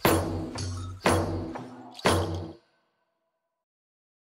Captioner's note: none